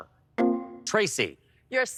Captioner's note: electric chime